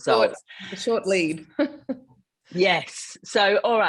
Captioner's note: laughing